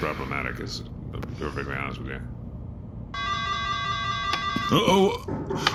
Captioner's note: breathes smoke; door alert rings again, urgent knocking